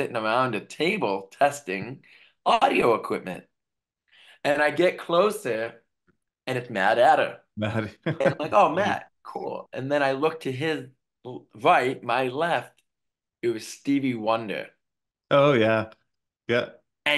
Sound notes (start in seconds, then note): 7.9 laughing